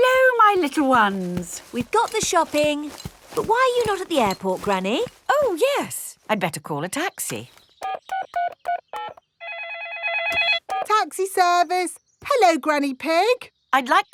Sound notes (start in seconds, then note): 9.4 phone ringing; 9.4 dialing